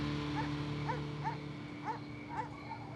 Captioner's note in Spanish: ladridos